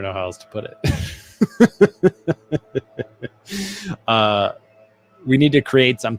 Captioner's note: laughing